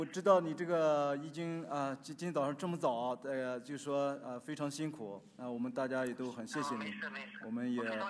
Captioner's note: speaking Chinese; Chen speaking Chinese